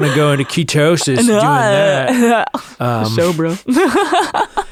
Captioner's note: laughs